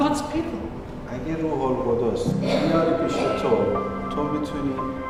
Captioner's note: foreign language